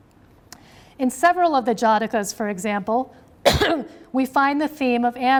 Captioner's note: coughs